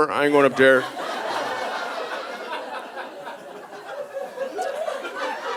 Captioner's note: audience laughing